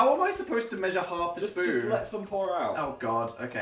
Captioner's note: none